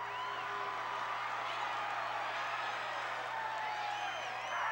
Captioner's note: crowd cheers